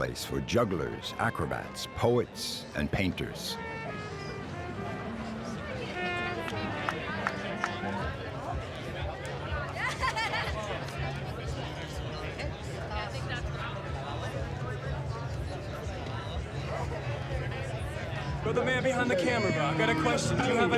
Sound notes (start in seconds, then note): 5.8 people chatting; 9.8 laughing